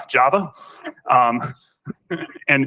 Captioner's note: laughter